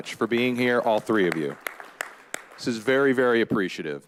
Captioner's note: all applauding